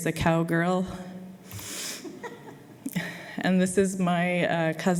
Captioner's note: laughter